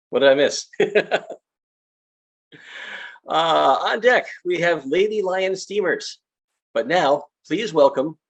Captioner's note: laughs